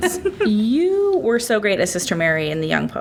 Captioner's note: laughs